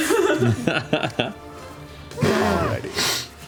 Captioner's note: laughter